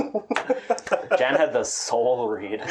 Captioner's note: laughter cringe